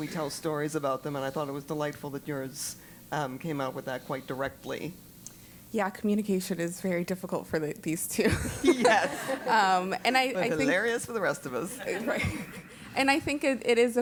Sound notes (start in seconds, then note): 8.3 laugh